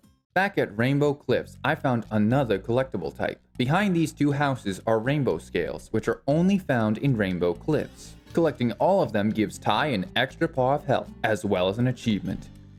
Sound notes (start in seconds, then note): none